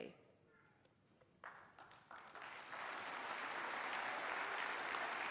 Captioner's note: applause